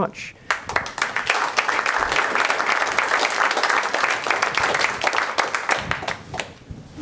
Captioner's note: applause